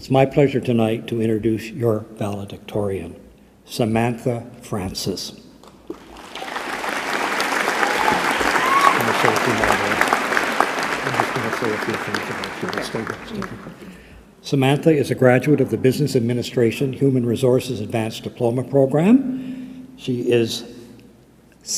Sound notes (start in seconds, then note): 12.8 applause